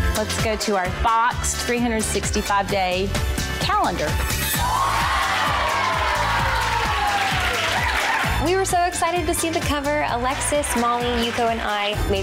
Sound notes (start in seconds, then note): 4.5 women cheer